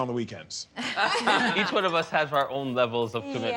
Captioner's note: all laughing